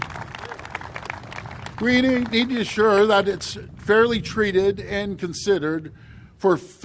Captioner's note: applause